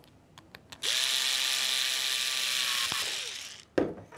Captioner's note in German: Kurzes durchdringendes Bohrgeräusch